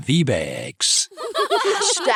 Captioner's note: laughter